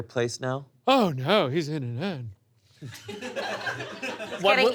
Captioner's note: audience laughs